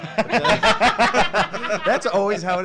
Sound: all laugh

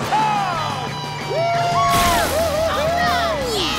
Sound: cheering

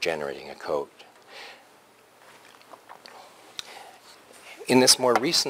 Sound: pause

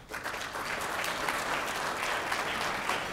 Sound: applause

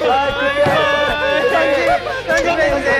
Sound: boo Hoo

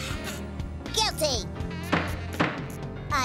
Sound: pounds gavel

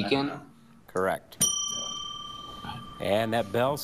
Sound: bell dings

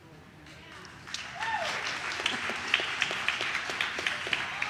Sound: audience cheers

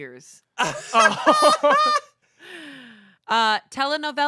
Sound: everyone laughs

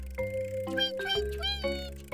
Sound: cranking

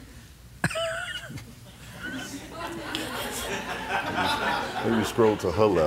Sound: laughter

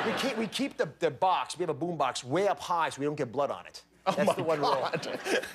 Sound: laughter

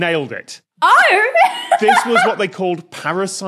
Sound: laughs

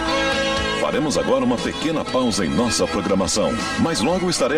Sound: man speaking portuguese

